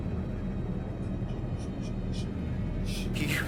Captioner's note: tense ambient music; gasping